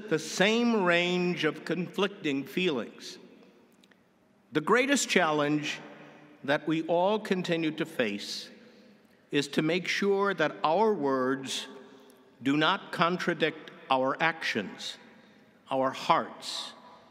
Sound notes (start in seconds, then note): none